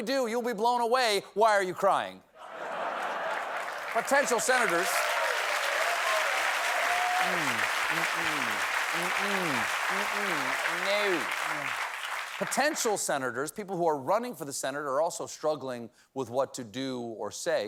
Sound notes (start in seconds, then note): 4.1 applause; 6.3 cheering